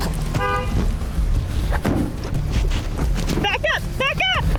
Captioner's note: honks horn